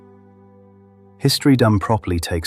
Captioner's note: long pause